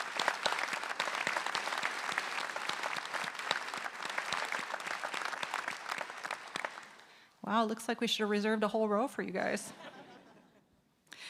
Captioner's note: applause